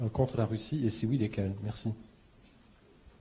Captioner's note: in French